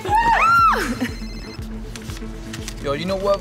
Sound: phone rings

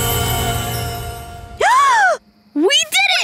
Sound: gasping

